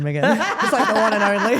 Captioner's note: Steph laughs